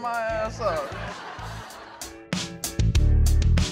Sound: laughter

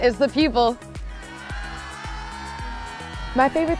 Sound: crowd cheering

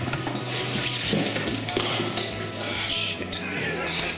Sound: drops stuff on the floor

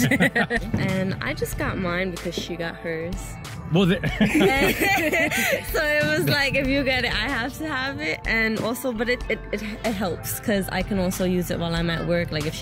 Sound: laughing

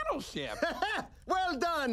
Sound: laughing

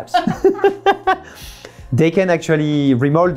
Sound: both laughing

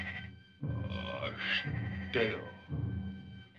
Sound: caveman speaking

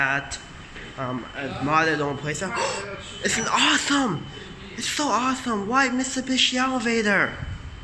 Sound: gasps

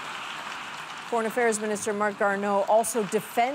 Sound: applause

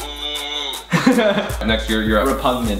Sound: laughing

